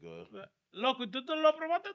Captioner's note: speaking In Foreign Language